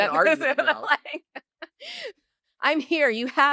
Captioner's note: laugh